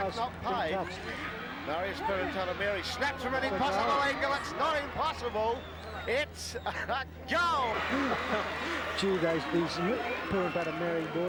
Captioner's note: football commentary